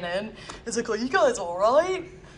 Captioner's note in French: avec l'accent australien